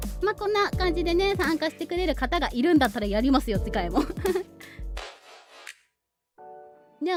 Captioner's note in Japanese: 笑い